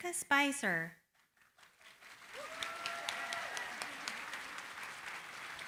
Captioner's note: applause